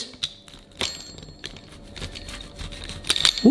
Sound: pizza cutter rattles and slices

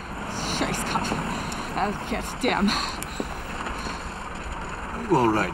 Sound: woman mutters in German

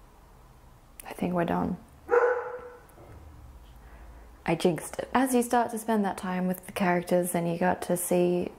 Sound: bark

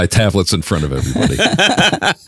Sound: laughing

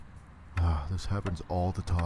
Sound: sigh

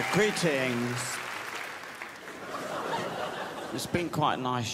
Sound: crowd applauds

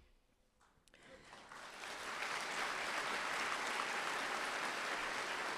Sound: applause

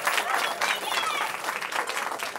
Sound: cheering

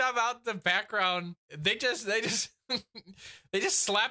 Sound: chuckles

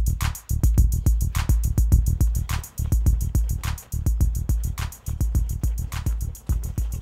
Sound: footsteps

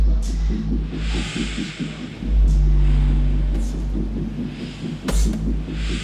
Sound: exercise ball hitting wall

